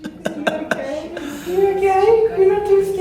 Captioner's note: laughter